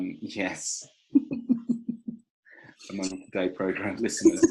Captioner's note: laughs